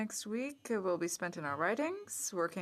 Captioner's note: speaking French